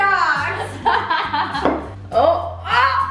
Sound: laughs

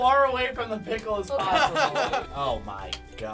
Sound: laughing

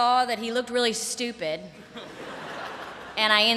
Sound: laughter

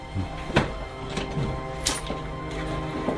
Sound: door opening

